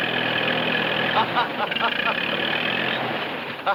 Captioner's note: laughs